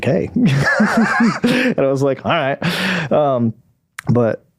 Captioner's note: laughing